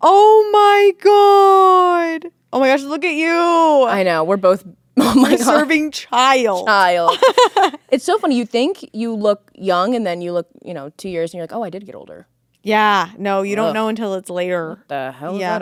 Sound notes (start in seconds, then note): 6.6 Courtney laughing